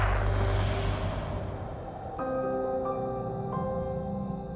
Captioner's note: insects chirping; calm music